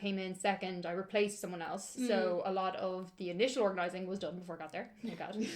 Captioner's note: laughter